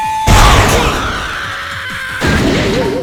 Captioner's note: pained cry